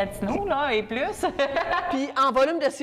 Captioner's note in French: laughs